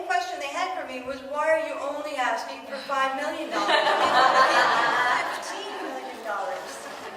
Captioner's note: audience laughs